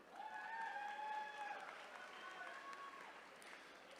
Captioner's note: attendees cheering